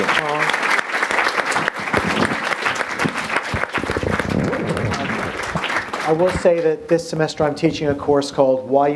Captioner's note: applause